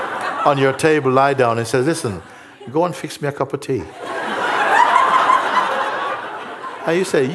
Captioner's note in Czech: smích